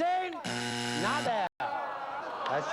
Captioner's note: buzzer